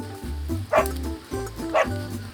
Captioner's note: jolly barking